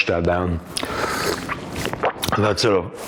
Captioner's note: liquid slurping